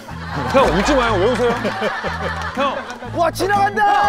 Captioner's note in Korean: 뭔가 매우 의미심장한 웃음